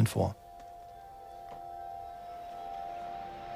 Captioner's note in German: Angespannter monotoner Ton